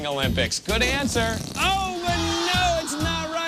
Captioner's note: farting noise